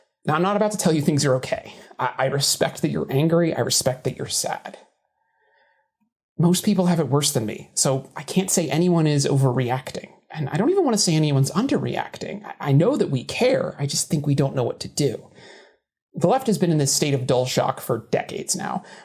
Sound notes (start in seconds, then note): none